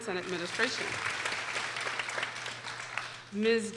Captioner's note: people applauding